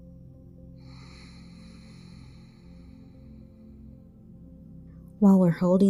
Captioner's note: relaxing music; exhaling